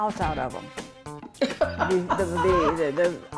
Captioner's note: laughs